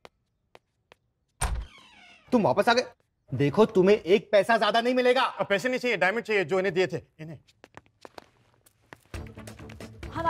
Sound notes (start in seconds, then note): 1.4 door opens